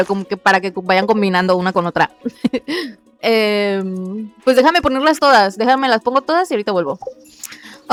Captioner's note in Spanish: risas